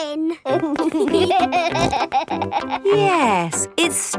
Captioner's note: laughing